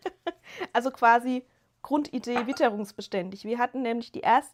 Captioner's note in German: gelächter